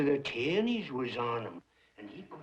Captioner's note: none